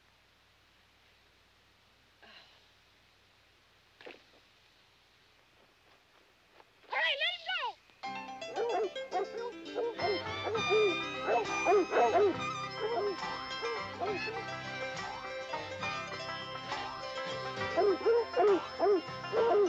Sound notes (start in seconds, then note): 8.5 dogs barking; 10.8 twangy music